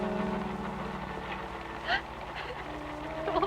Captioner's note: cries